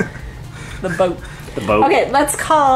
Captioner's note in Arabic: يضحك